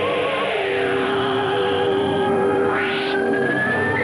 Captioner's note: eerie whistling